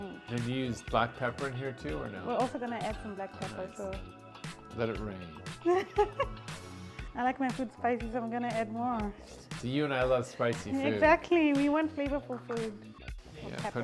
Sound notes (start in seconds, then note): 5.6 laughs